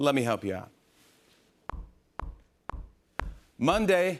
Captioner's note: rhythmic tapping